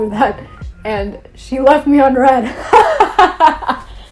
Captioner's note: laughs